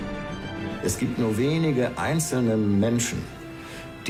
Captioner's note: in German